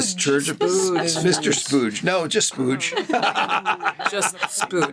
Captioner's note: laughs